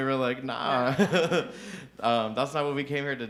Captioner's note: chuckles